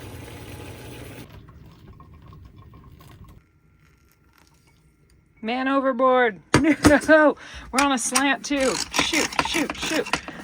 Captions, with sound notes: Man overboard. No! (laughs) We're on a slant too. Shoot, shoot, shoot!